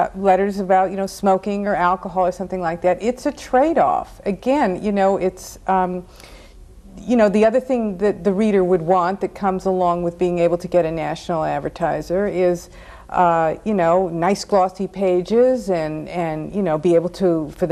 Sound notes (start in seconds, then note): none